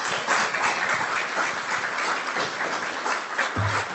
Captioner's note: audience clapping